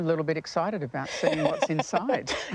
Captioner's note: laughter